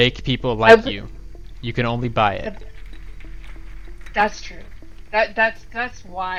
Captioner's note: stompy